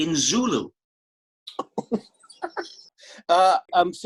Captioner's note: laughs